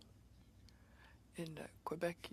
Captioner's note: speaking French